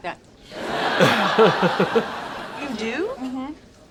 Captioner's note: laugh track and laugh